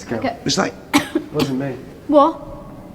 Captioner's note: coughing